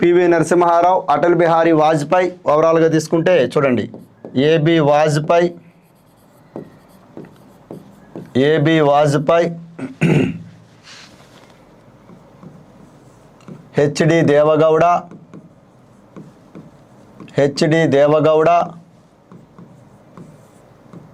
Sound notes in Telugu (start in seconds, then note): 9.7 గొంతు సవరించుకోవడం; 9.7 దగ్గు